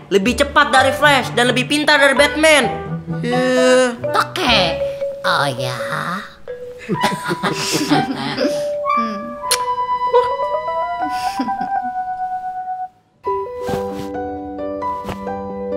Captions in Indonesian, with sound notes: lebih cepat dari Flash! dan lebih pintar dari Batman! yeuuuh...! Tokek...! oh ya? (suara para santri tertawa)